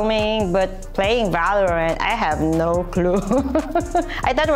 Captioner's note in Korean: 웃음